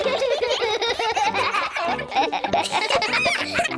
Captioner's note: all giggle